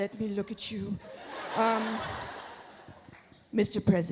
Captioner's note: audience laughs